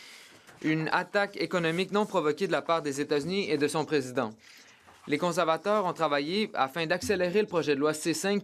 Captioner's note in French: voix de l'interprète